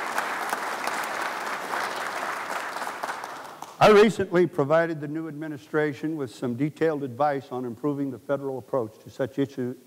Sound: applause

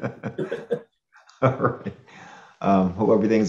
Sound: group laughs

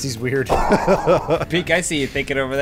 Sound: laughter

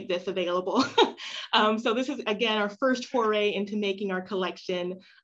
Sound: laughter

